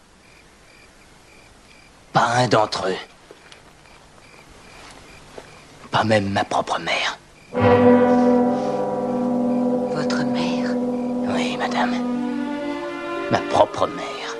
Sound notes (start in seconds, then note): none